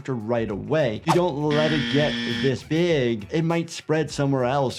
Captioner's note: buzzer buzzing